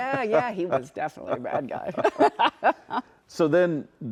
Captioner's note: laughs